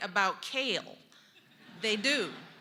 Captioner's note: laughter